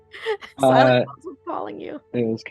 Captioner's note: laughs